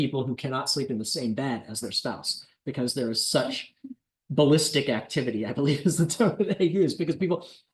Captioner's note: laughter